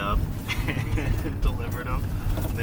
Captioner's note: laughing